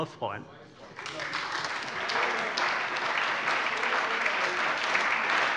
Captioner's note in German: Beifall